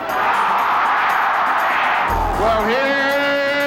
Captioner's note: crowd cheering